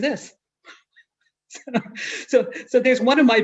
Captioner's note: chuckles